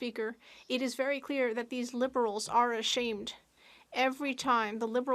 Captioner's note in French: voix de l'interprète